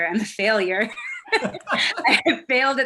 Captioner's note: laughs